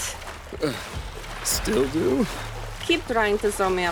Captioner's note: exhales